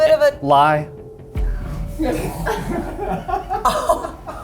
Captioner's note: crew laughing; laughs